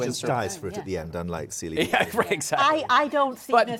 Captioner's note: laughing